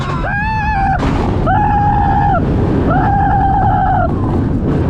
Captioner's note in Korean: 경박한 비명소리